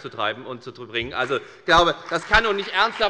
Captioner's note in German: Beifall bei der FDP